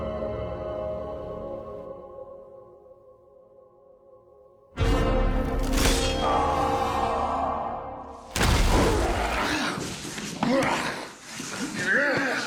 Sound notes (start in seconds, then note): 6.0 yells; 10.3 grunting